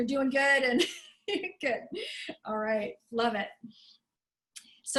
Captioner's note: laughter